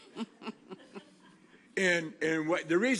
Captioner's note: laughter